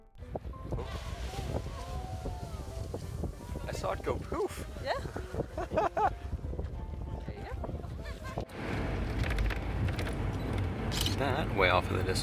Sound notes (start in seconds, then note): 0.6 geyser erupts; 4.9 laughs